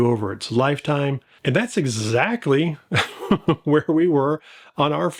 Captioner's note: laughs